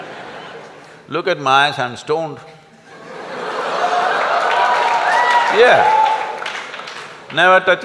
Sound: laughter\Applause

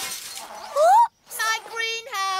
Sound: smashing glass

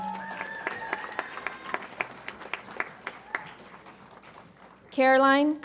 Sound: audience applauds and cheers

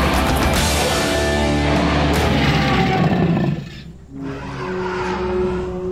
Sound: growling

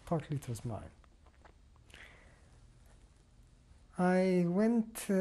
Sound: pauses for 3 seconds

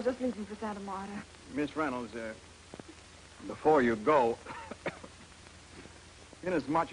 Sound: coughs

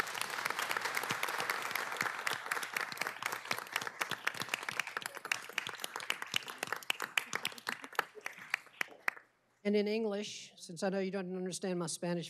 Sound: applause

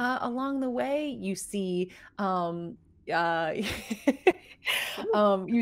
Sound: laughs

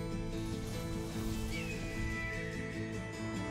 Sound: hawk screeches

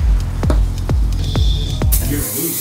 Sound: beeping noise; robotic Voice

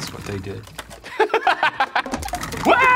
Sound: laughs

